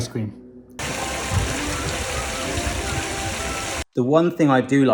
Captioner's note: water rushing